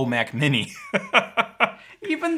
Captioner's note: laughing